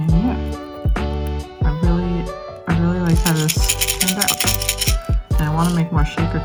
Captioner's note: shaking noises